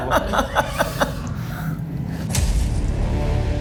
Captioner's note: laughs; dramatic music